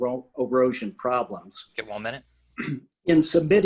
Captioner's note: clears throat